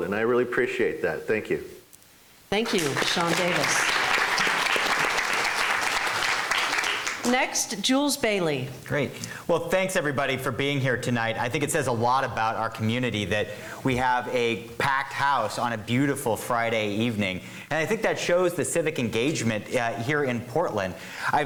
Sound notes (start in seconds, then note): 2.6 clapping